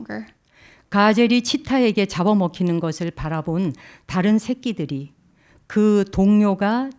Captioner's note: speaking in Korean